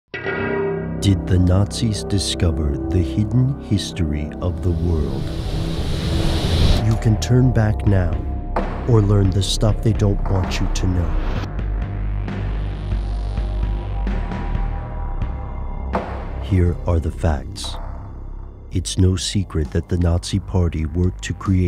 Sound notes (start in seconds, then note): 0.0 dissonant music; 1.4 voiceover